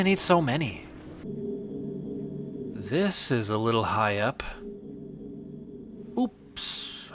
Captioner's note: ambient mechanical drone